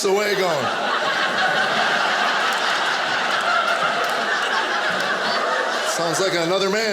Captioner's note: audience laughing